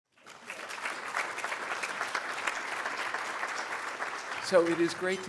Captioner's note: applause